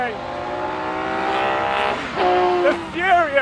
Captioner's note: engine roaring